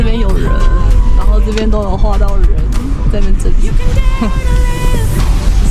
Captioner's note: haha